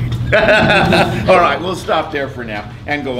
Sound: laughs

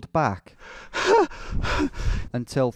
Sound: laughing; voiceover

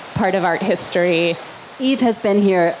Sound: raining loudly

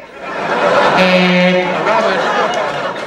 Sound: buzzer sound

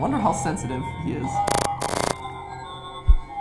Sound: static

